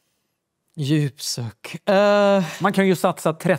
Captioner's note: sighs deeply